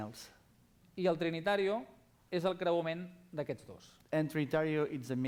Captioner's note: non-english speech